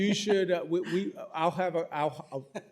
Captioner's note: laughter